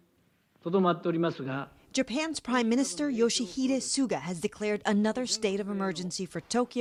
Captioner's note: Speaking Japanese